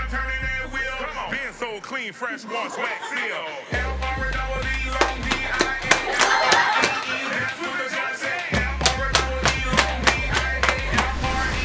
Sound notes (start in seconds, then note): 4.6 sudden thigh slap